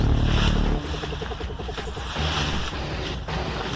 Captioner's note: bushes rustling